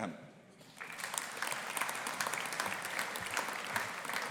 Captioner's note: audience applauding